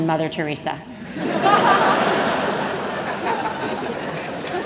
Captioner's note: laughter